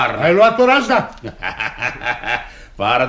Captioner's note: laughs